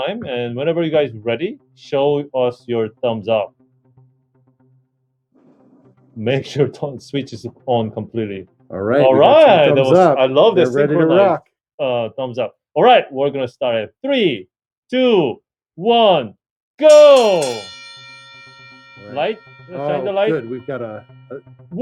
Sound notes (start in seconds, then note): 16.8 bell ringing